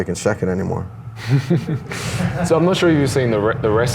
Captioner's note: laughs